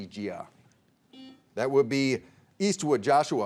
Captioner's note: buzzer beeping